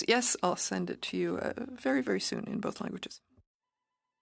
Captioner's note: speaking French